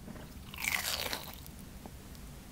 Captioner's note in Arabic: صوت مقرمش